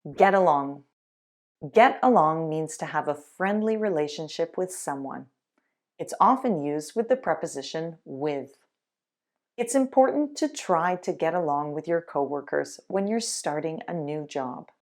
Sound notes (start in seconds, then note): none